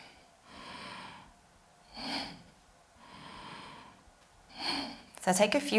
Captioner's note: inhaling and exhaling